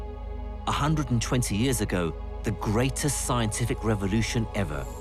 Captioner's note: voiceover